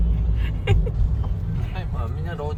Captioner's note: laughter